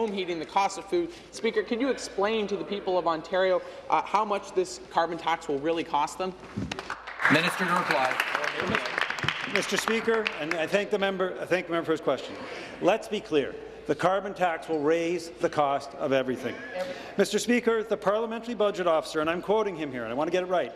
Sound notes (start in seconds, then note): 9.8 applause